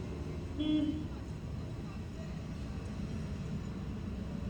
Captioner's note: vehicle horn honks